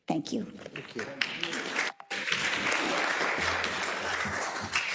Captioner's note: attendees applauding